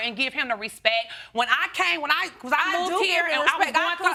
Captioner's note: arguing